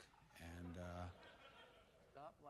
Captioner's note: audience laughter